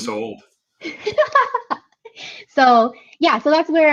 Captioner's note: laughing